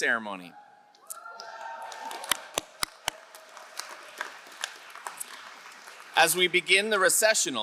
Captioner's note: crowd cheering and applauding